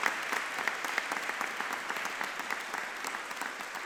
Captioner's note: audience clapping